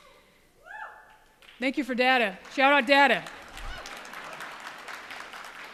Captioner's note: applause